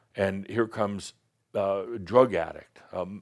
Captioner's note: none